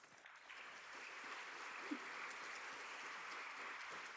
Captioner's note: audience clapping